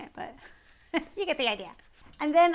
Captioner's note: laughs